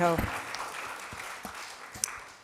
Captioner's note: applause